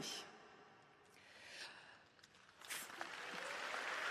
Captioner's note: applause